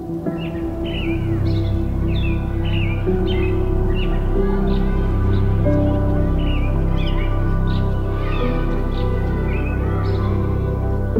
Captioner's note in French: Musique lente; Gazouillis d'oiseaux, clameurs